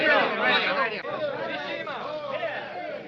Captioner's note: chattering